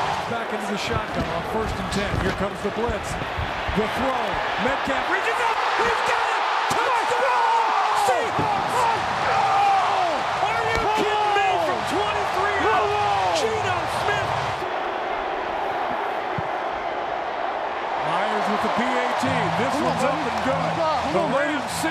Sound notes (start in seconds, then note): 6.4 crowd cheering; 6.4 players cheering; 9.1 crowd cheering